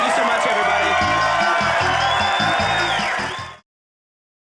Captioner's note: audience cheering